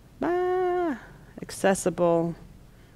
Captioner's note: groans